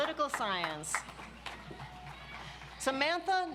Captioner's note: audience applauds